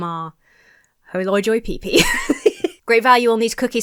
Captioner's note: laughs